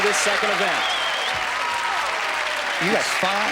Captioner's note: cheering and applause